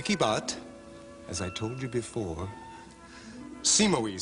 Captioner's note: Sottovoce